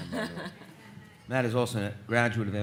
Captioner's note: speaker laughs